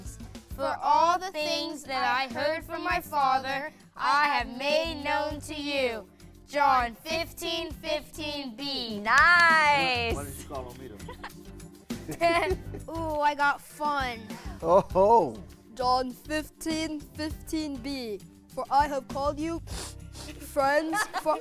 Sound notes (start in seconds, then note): 10.5 laughter; 19.6 sniffing